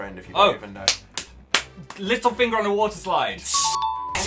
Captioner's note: claps frantically